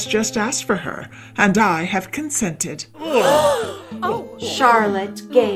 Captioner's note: gasps!